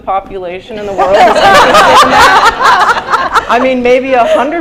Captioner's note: laughter